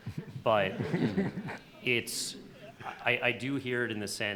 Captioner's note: laughter